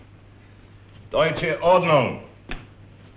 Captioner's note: German spoken audio